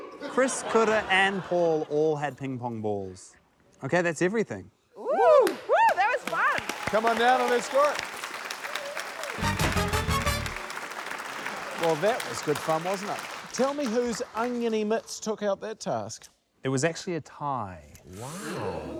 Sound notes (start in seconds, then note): 0.0 laughter; 4.8 contestants exclaim; 6.7 cheers, applause; 9.4 curious music